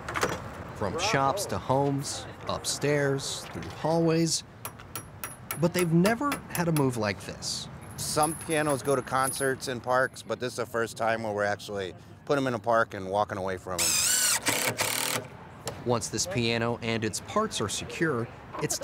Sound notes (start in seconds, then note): 13.8 drill screeching